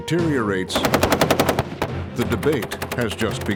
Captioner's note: gunfire